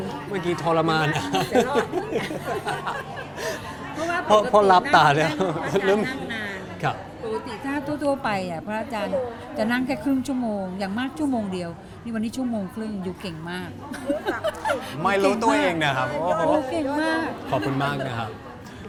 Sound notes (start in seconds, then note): 1.0 laughing